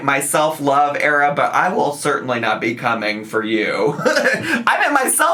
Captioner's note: laughs